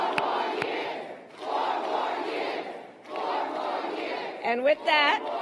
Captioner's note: applause